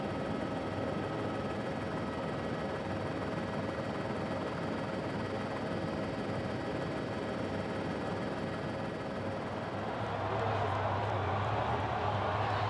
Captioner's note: cheering